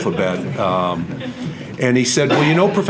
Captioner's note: audience laughter